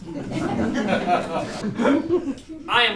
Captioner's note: laughter